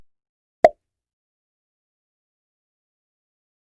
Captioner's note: pop